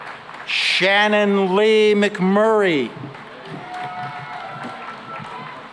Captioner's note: cheering and applause